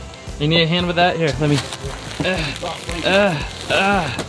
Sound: grunting

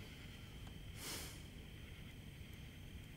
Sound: sighs

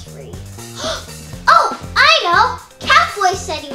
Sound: gasps

